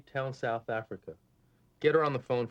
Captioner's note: none